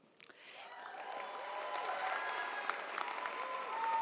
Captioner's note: audience cheers